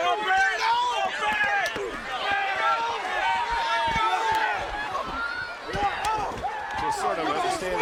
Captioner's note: crowd chatter